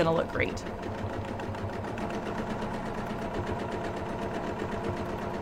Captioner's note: sewing machine hums